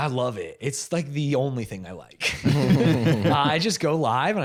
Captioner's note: all laughing